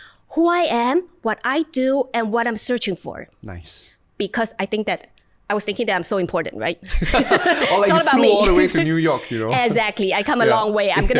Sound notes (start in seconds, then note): 6.9 laughter